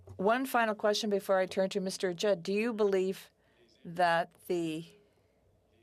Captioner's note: speaking French